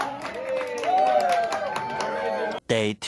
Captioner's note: cheering